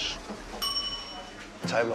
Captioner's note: kitchen bell sound